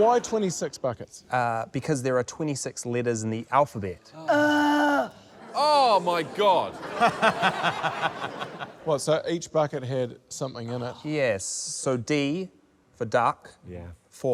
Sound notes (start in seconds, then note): 4.2 groans; 5.4 laughter